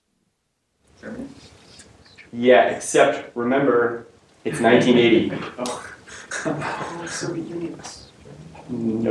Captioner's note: laughter